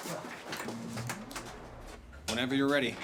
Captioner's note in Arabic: الآلات تدندن